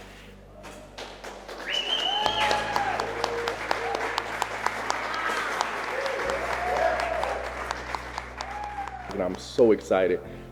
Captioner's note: applause